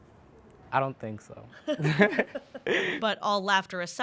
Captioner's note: laughs